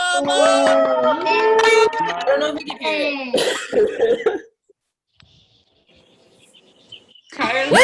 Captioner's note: cheering